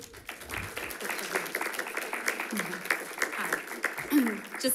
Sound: audience applauding

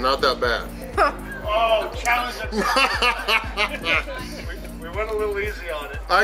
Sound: laughter

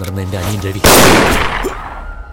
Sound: shot fired

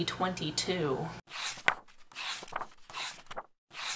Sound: pages turning

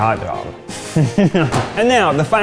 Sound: chuckles

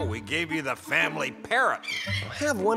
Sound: squawk

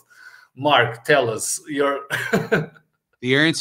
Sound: laughs

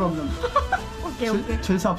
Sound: laugh button lol

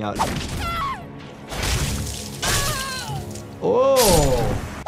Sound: exclaims

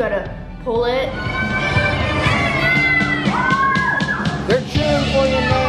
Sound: kids squealing and yelling

